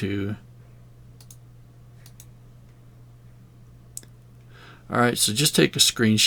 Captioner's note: silence